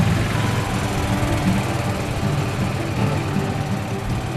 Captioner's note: engine sputtering